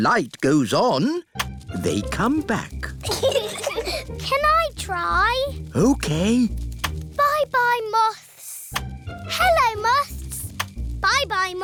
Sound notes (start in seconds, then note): 3.0 peppa and george giggle